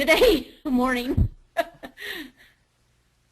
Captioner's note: laughter